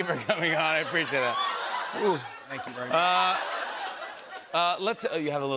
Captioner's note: laughter